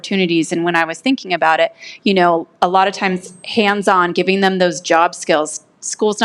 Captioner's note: none